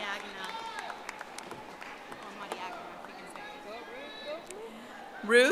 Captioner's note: audience applauding